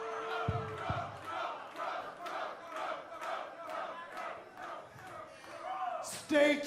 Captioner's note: fans chanting